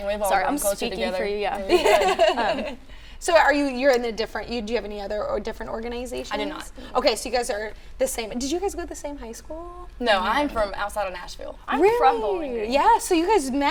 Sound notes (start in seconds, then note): 1.6 laughing